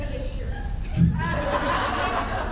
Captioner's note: laughs